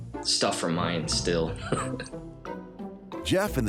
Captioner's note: laughs